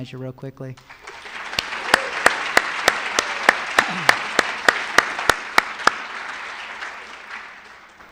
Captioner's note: applause